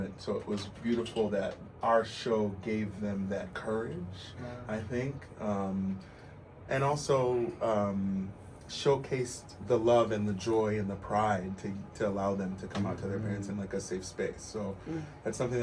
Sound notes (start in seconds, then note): none